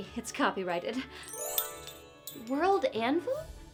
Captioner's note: magical twinkling